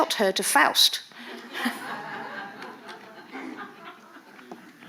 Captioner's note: audience laughing